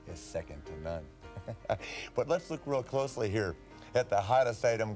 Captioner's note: laughs